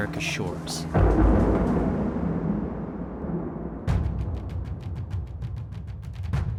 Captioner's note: soundbite of thunder cracking